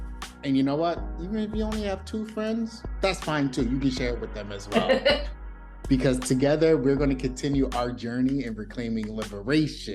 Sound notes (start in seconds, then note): 4.7 laughter